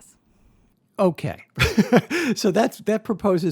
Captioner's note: chuckles